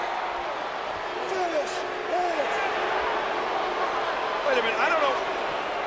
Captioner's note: crowd booing